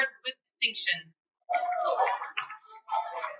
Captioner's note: cheering